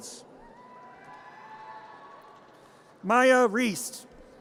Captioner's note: audience cheers